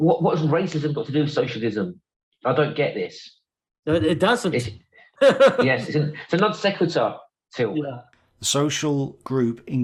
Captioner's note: laugh